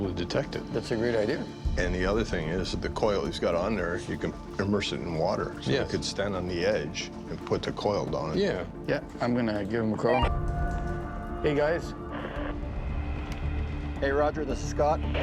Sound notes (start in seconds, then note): 12.0 walkie hisses